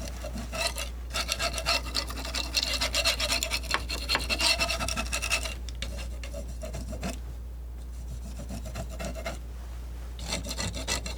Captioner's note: scratching